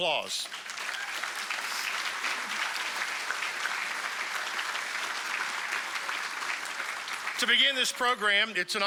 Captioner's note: applause